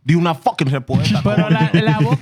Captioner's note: speaking Foreign Language